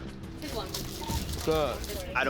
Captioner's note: intense music playing; radio beeping